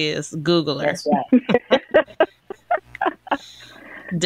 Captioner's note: laughter